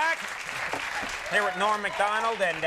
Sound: audience applauds

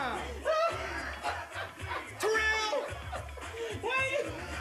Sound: Terrell continues laughing

